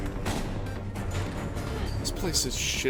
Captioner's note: none